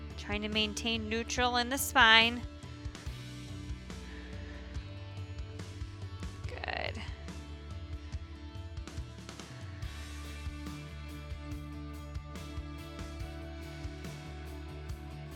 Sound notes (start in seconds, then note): 0.0 upbeat music continues; 2.9 exhales; 2.9 upbeat music continues